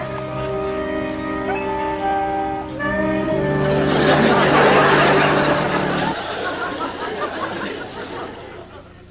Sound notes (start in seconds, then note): 3.5 big laughter